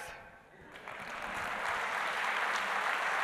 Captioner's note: applause